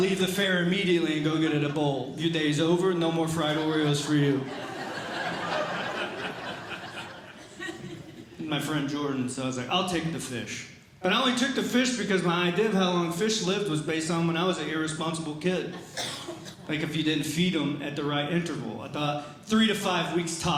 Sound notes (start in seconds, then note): 3.3 audience Laughing